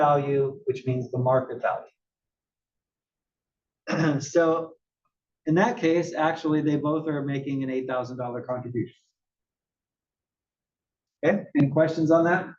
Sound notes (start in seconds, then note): 3.8 cough